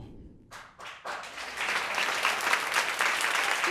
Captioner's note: applause